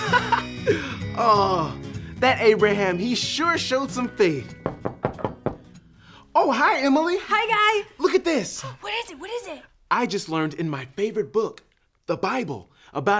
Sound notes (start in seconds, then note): 0.0 laughs; 4.6 knocking on door